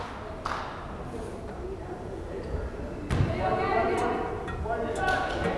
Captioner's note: crowd chattering